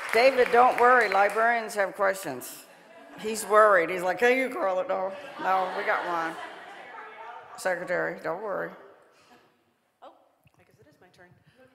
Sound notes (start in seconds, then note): 3.1 audience laughing; 5.0 audience laughing